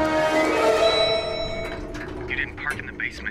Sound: elevator bell

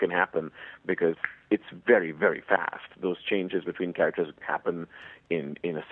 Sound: snaps fingers

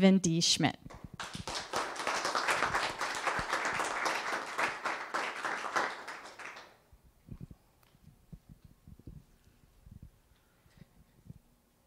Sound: applause

